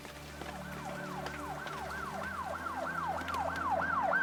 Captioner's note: police sirens wailing